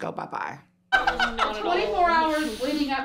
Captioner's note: laughing